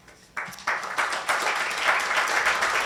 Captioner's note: applause